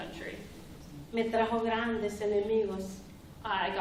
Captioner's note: speaking spanish